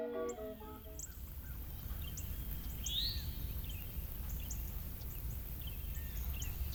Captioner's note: calliope music; nature sounds